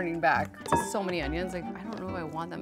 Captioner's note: ding